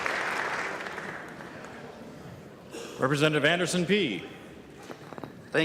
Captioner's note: clapping